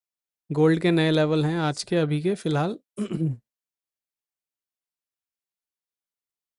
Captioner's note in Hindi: गला साफ़ करने की आवाज़